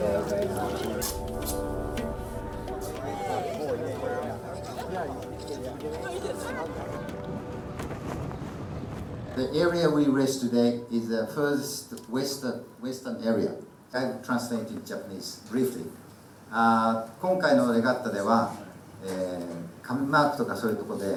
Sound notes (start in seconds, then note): 16.7 speaking in foreign language